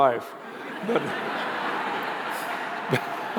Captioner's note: laughter